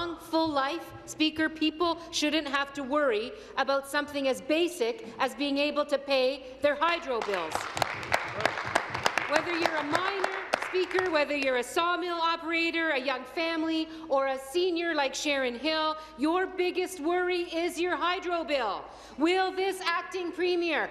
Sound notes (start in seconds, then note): 11.2 applause